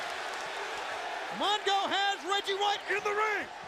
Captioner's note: crowd cheering